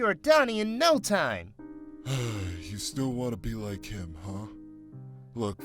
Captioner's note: sigh